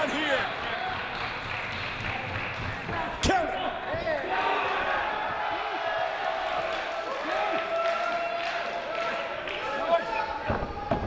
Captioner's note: applause